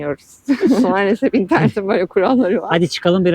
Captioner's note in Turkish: kahkaha